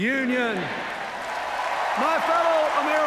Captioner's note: cheers, applause